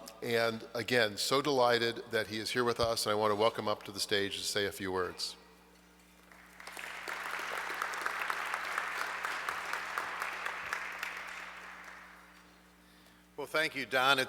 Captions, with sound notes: And again, so delighted that he is here with us, I wanna welcome up to the stage and say a few words. (audience clapping) - Well, thank you, Don,